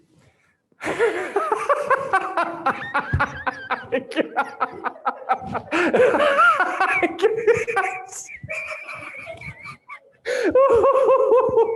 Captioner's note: laughs